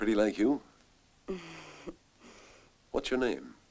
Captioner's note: chuckles